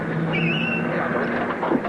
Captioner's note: tires squealing